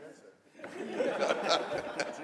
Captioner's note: laughter